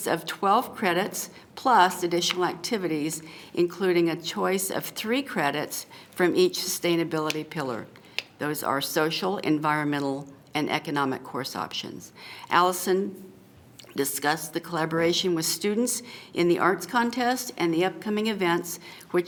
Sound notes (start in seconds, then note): none